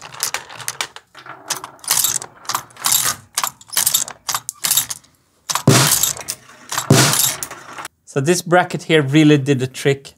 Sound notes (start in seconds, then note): 1.7 clack x4; 5.4 clack; 5.6 snare drum hit